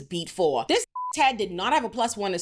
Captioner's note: beep